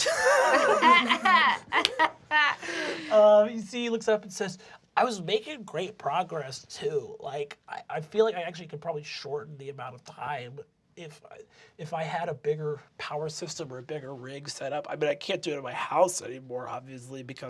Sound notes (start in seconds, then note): 0.0 laughter; 5.0 nasally